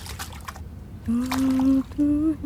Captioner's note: humming